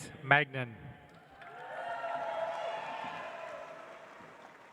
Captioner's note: audience applauds